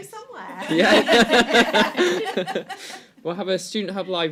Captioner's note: laughter